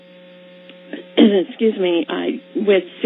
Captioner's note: coughs